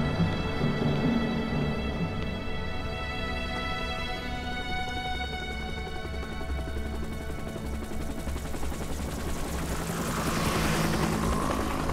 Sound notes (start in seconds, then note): 9.5 helicopter flies over